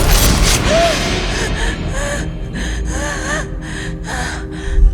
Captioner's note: tense music; Mindy gasping